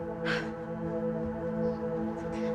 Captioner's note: Jane sighs; dark and disturbing music